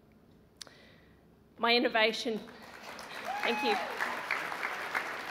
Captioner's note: applause